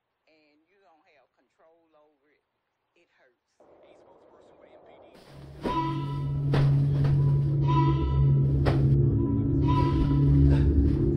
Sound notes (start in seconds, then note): 3.6 wind gusting; 5.5 unsettling music; 6.3 pillows smacking